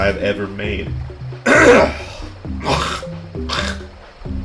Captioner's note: clears throat